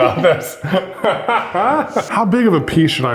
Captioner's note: both laugh